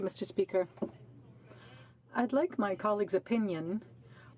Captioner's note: speaking French